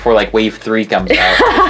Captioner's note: laughs